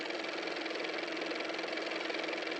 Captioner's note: car motor